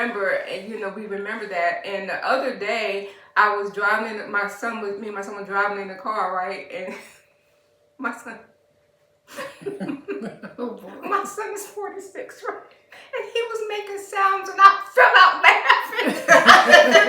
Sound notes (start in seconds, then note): 9.3 laughter